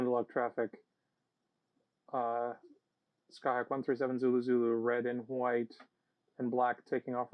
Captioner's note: radio